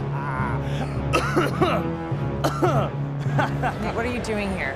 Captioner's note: laughs; coughs; laughs